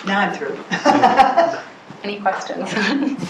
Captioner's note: laughs